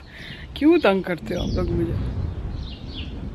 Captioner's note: lightning sounds